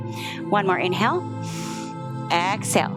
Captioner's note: exhales; inhales